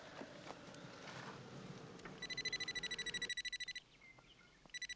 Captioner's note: ringing